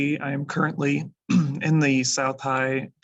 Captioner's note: instructor clears throat